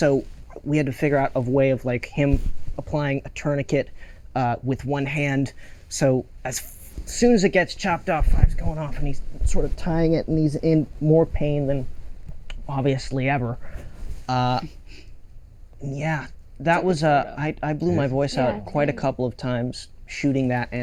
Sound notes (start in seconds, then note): none